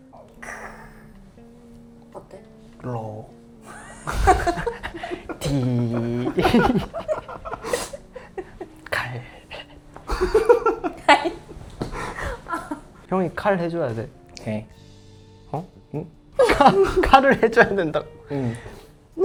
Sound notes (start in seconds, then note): 3.9 ha ha ha ha ha ha ha ha ha ha ha ha ha ha